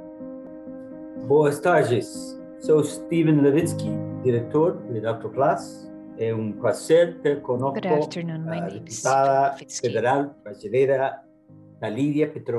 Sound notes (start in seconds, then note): 1.4 speaking in Portuguese